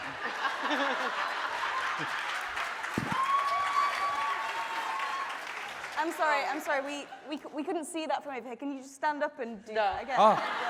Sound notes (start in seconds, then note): 0.0 laughing; 3.1 audience cheering